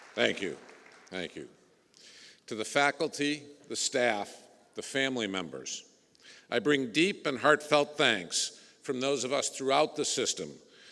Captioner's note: applause